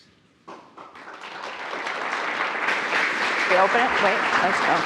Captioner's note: attendees applauding